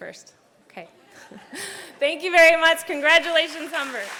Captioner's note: laughs